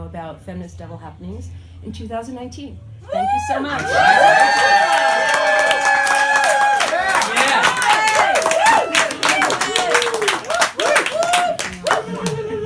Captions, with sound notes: about Feminist Devil happenings in 2019 Thank you so much! [crowd cheering]